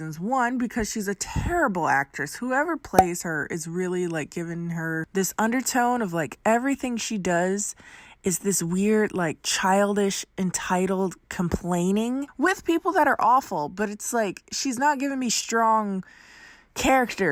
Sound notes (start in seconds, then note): 2.9 popping